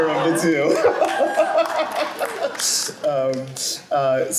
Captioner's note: laughter